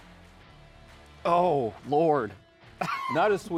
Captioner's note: wheezes